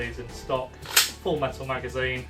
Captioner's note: sound of magazine entering the gun